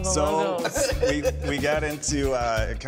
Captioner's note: laughing